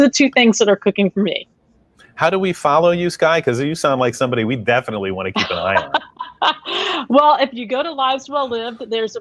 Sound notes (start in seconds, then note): 4.6 laughing